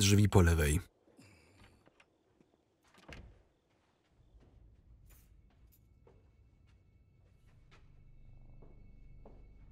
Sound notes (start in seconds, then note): 2.8 door opens; 3.0 door clicks shut; 5.4 suspenseful music